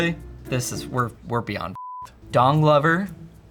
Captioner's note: beep